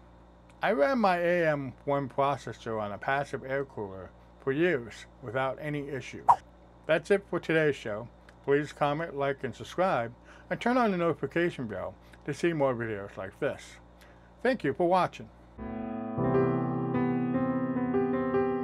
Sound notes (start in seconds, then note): 6.2 swipe sound; 15.6 ♫ piano music ♫